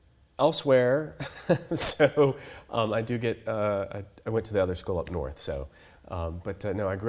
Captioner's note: laughs